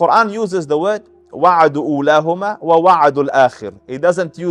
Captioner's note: Arabic